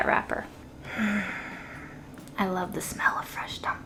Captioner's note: sighs